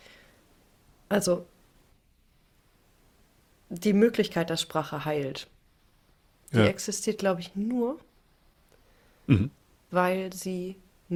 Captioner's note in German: räuspern